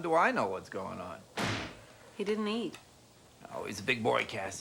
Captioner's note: door slams